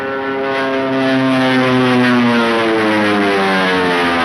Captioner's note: engine roars